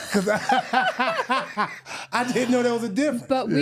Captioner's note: laughing